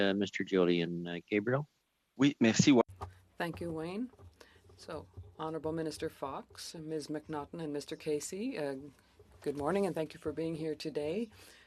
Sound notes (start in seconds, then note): 8.4 speaking French